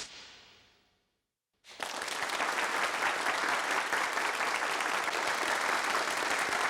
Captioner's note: applause